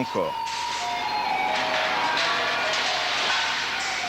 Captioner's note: applause